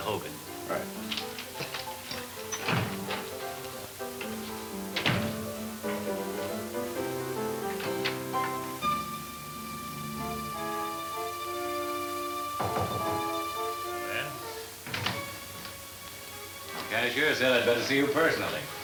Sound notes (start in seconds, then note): 0.3 fun upbeat piano music; 7.4 pensive orchestra music; 12.5 knocking on door